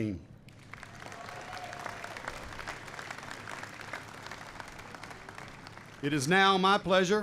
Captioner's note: applause